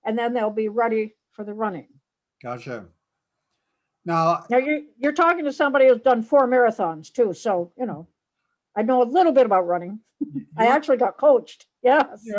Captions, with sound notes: and then they'll be ready for the running. - Gotcha. - You're talking to somebody who's done four marathons too. So, I know a little bit about running. (laughs) I actually got coached, yes.